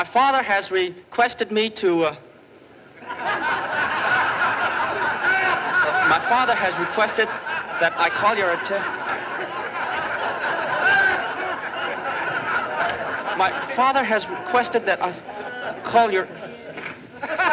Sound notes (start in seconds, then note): 3.2 audience Laughing; 5.9 laughing Continues